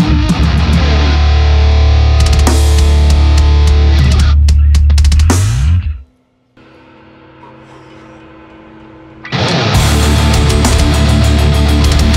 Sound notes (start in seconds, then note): 7.3 sighs; 9.4 metal music